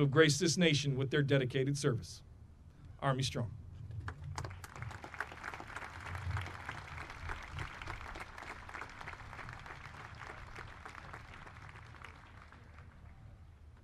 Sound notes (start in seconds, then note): 1.4 audience applauding